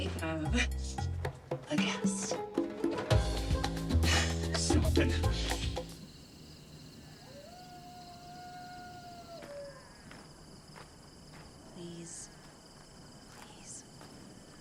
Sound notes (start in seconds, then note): 5.6 crickets chirping; 7.4 coyote howling in distance